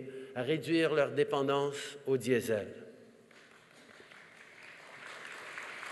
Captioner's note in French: Applaudissements